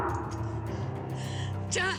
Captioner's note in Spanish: sollozos